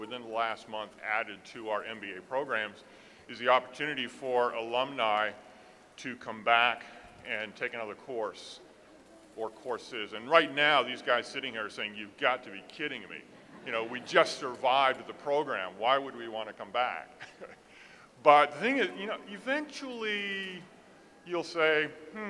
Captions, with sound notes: within the last month added to our MBA programs, is the opportunity for alumni to come back and take another course, or courses, and right now these guys sitting here are saying, you've got to be kidding me, (audience laughs) you know we just survived the program, why would we want to come back? (chuckles) But eventually you'll say, hm, I didn't get that course,